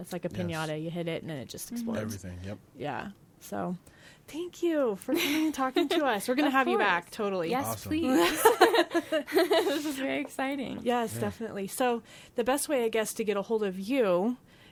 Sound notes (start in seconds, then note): 9.3 laughing